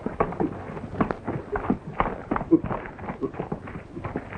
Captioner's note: horses galloping